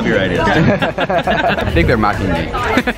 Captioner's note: laughing